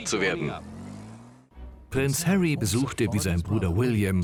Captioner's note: voiceover